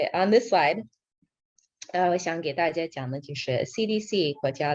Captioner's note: non-english speech